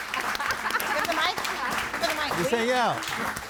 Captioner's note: audience applauding